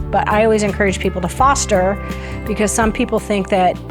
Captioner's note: none